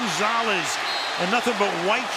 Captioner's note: cheering